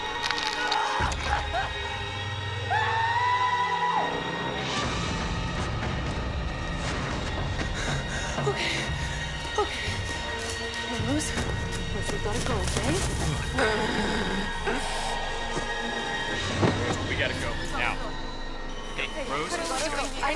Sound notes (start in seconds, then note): 2.6 puppet screaming; 4.7 suspenseful music; 13.5 puppet gasping; 16.0 suspenseful music